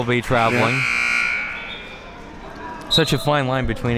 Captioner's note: buzzer sounding